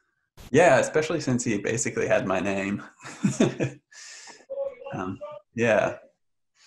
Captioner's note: laughs